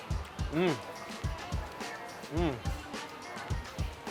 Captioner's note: moans